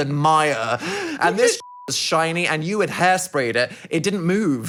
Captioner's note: beep